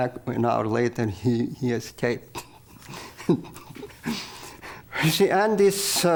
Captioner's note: laughs